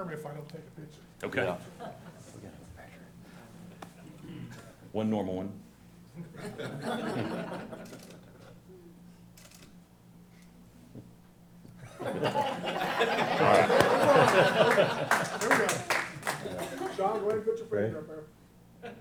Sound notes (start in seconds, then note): 12.0 laugh